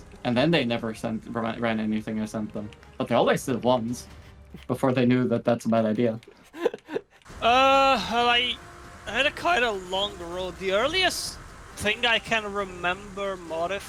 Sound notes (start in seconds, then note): 6.3 chuckling